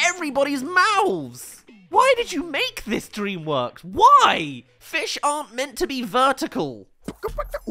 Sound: beatboxes

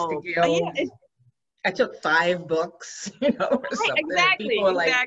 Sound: laughs

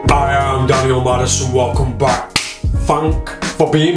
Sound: claps hands

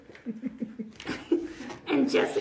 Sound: laughing

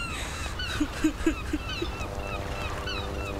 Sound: sobbing

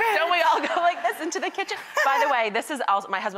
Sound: laughing

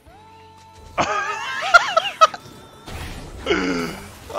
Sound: laughing

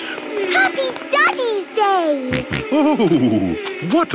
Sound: snorting

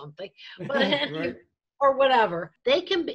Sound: laughs

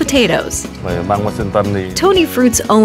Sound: owner speaking in Vietnamese

